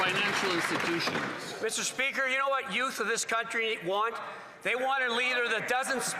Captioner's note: some Applause